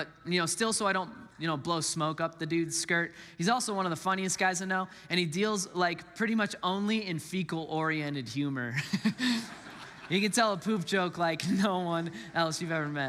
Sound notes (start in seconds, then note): 8.8 laughs; 8.8 congregants laughs